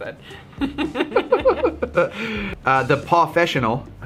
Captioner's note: laughing